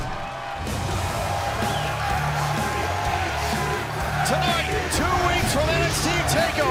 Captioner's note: crowd cheering